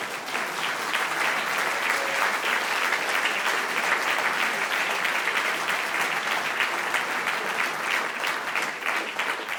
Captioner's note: applause